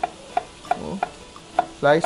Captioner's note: sizzle